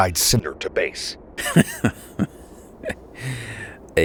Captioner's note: Wildcard chuckles